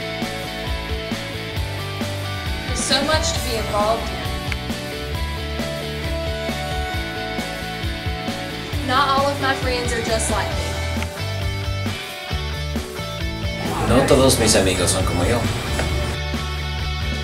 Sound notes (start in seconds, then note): 15.6 en espanol